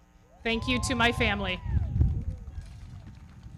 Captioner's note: audience cheering; everybody clapping